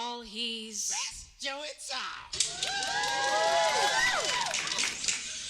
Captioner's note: cheering